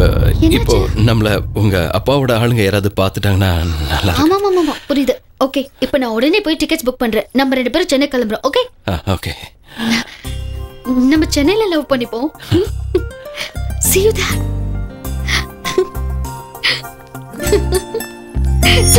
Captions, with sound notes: What happened? If your dad's men spot us... Yes, I understood. I will book tickets now, and let's go to Chennai. Okay. Let's love each other in Chennai. See you then. (Laughs)